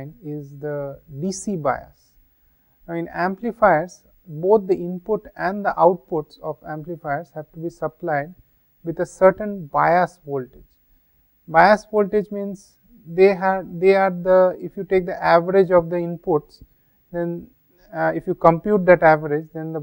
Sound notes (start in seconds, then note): 11.3 gain noise